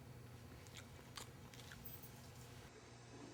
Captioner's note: Dillon chewing; soft footsteps